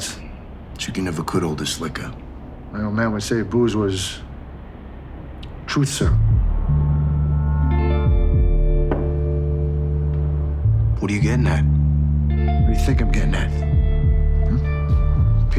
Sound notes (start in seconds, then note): 6.5 low moody music; 9.2 glass clicking